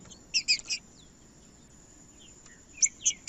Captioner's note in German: trinca ferro cantando